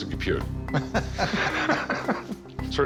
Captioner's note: laughter